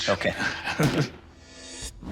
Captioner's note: chuckles